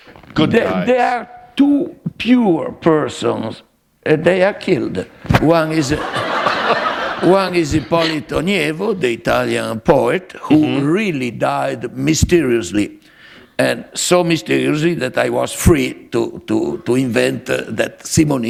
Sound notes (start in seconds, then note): 5.8 laughter